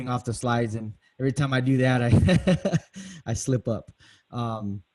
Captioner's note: laughs